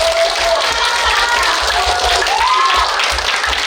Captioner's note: enthusiastic cheers